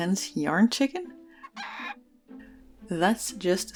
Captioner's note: chicken crowing